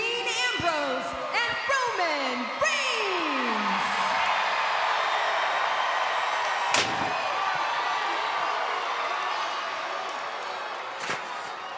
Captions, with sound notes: Dean Ambrose, and Roman Reigns! (crowd cheers)